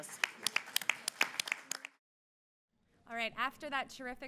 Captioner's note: applause